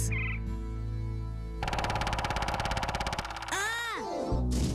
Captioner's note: woodpecker chirping then pecking loudly